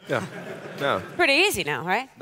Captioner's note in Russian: смех